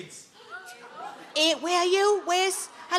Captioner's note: audience members gasping